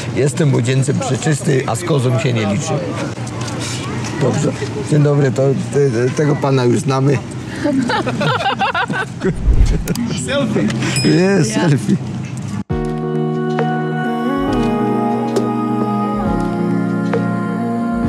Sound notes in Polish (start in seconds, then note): 7.5 śmiech